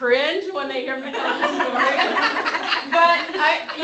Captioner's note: laughter